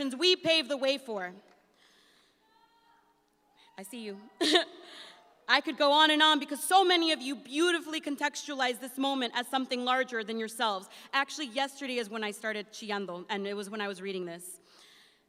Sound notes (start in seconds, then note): 4.4 chuckles